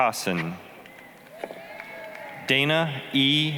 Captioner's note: applause, cheering